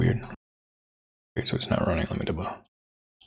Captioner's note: blank Audio; blank Audio